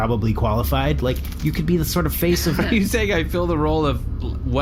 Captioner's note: laughing